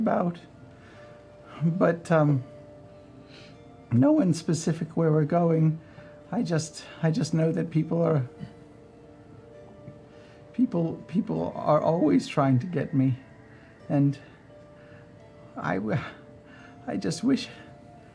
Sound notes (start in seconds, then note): 11.1 stammering